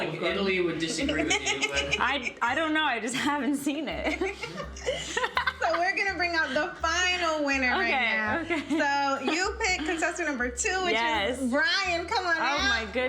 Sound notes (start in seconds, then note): 4.0 chuckling